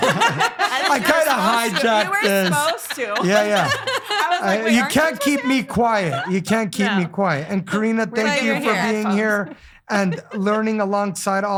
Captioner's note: laughing